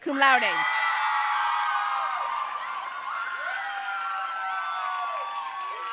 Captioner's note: audience cheering and applauding